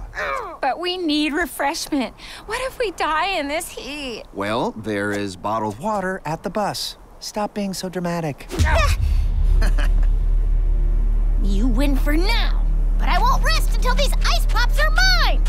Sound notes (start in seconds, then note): 8.6 both grunting; 9.4 Tom laughing